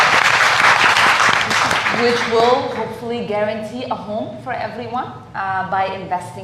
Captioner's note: applause